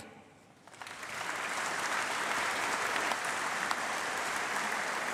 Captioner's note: applause